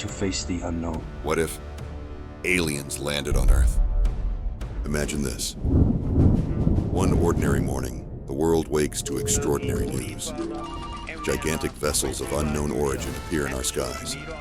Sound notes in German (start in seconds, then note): 7.6 donnergrollend; 10.2 Belebtes Geräusch in der Nachrichtenredaktion